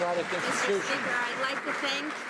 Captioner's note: some Applause